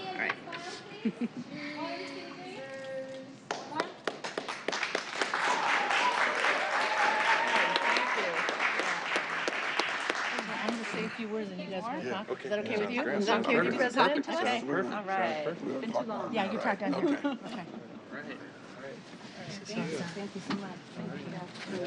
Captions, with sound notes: >> LARRY. >> OH, I'M SORRY. [ LAUGHTER ] [ APPLAUSE ]